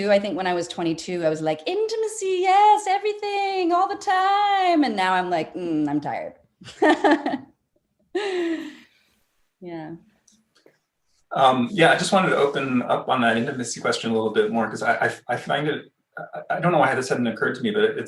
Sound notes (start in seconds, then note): 6.6 laughing